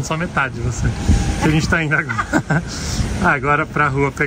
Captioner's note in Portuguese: risos